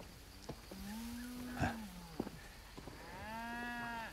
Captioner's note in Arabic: خرير الماشية